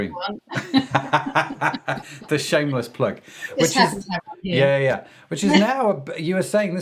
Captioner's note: laughing